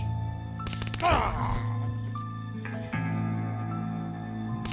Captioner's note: taser zapping; zombie walter groaning